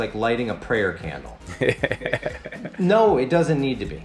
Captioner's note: laughs